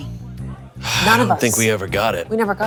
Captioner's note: Fernie sighs